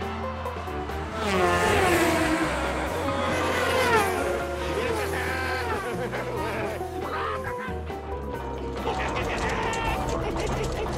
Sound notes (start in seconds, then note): 8.8 laughing